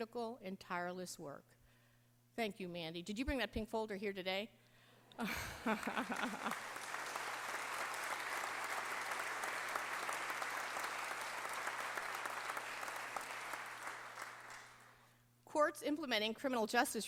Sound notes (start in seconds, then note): 5.2 laughter; 8.6 applause